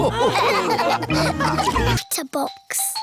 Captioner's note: all laughing